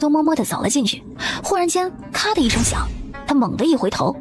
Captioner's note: click